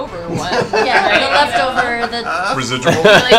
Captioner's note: laughter